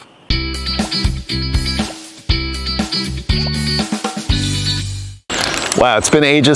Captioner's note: upbeat music; graphics popping